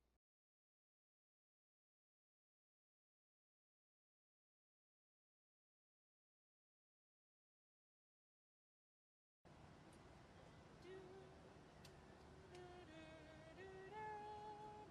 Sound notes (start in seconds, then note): 10.7 humming